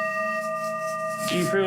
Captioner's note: coughs